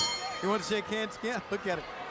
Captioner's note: bell ringing